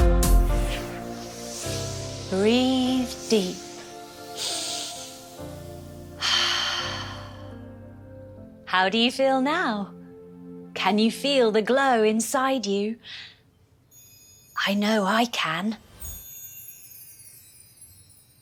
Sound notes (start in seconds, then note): 0.4 magical whoosh; 4.2 inhale; 6.1 exhale; 15.8 light magical chime